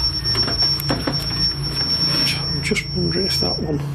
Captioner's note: beeping